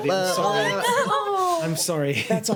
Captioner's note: groaning